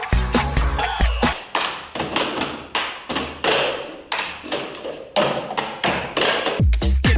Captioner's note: high energy music; hands clapping; cups clapping; high energy music